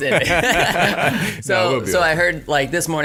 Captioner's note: laughing